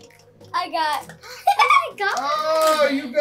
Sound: laughs

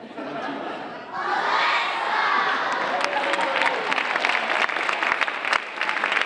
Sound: audience applauding

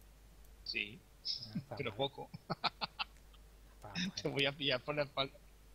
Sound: laughing hard

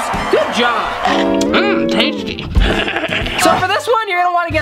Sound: evil laugh

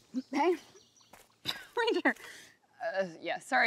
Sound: laughs

